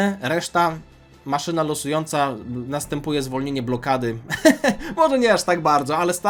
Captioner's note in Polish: śmiech